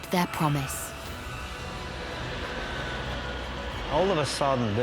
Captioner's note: dramatic music continues; jet engine roars